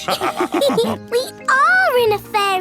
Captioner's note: all laughing